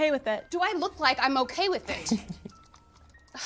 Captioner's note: Godfrey chuckles